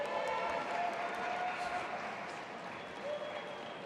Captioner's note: audience applauding